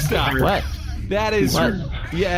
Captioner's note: laughing